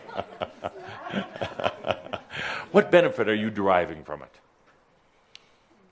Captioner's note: Adamus chuckles